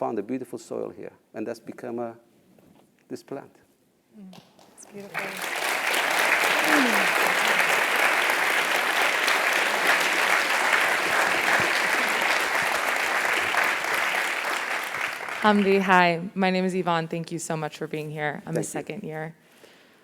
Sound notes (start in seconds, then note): 4.6 applause